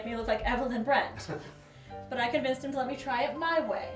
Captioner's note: Lee chuckling